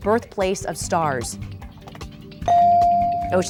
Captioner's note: bell dinging